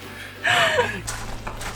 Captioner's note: laughs